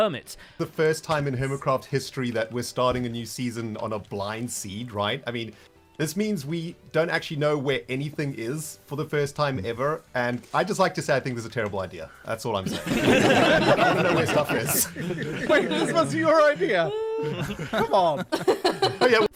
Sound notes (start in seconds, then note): 12.8 group laughter